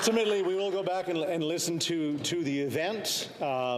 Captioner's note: some Applause